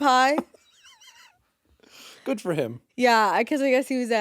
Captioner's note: chuckles